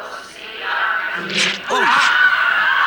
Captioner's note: group speaks in foreign language; Alex, Cassandra and Bailey gasping